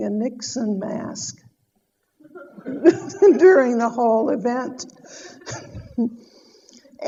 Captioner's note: audience laughter